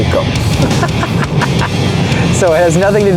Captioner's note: laughing